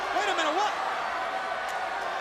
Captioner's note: crowd chatter